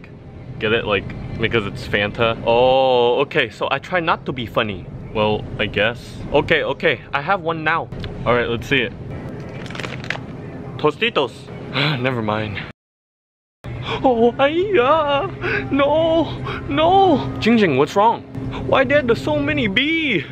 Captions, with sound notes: Get it like because it's Fanta. Oh, okay, so I try now to be funny. Well, I guess okay, okay I have one now. All right, let's see it Tostitos, *sigh* never mind. Ai Ya, no no! Ging Ging, what's wrong? why there the so many bees